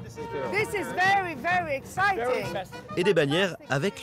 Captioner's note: speaking in English